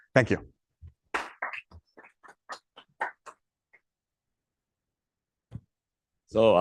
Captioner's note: applause